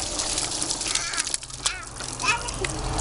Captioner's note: water gurgling